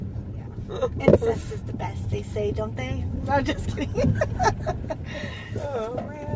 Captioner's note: laughs